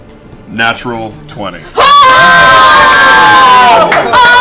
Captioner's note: cheering